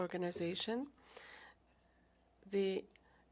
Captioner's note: speaking French